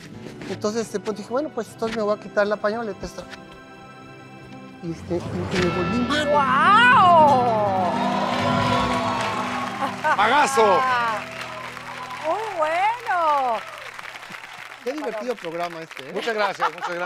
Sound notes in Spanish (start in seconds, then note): 7.7 Ovación; 8.9 Ríe; 16.2 Ríe